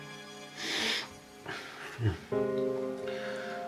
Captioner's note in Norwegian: snufser